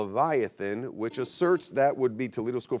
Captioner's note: buzzer beeps